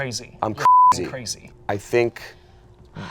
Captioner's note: beep